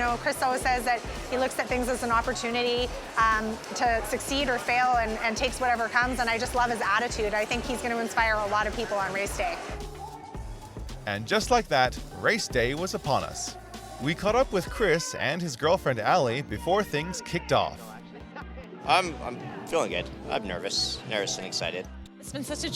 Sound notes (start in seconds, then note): 11.7 voiceover